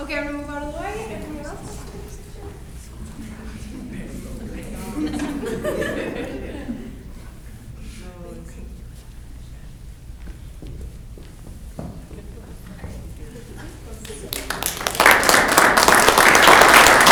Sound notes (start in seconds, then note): 4.8 crowd talking and laughing; 14.0 clapping